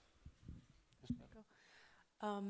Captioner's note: speaks faintly